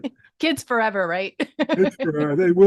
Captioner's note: laughing